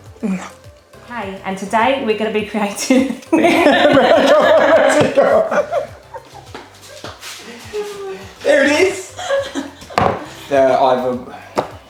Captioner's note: laughing